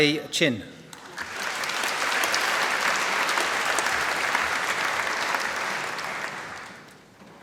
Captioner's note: applause